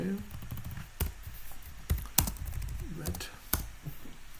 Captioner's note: typing